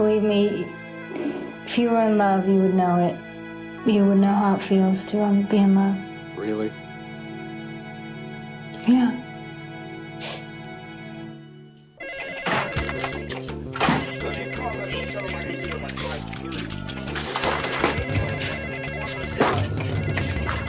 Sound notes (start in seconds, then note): 7.4 gentle music; 10.7 gentle music; 12.1 telephone ringing; 13.8 people chattering; 16.1 telephone ringing; 17.9 people chattering